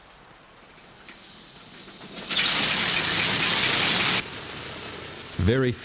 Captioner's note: plane propellers whirring